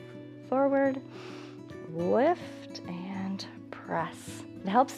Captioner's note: inhales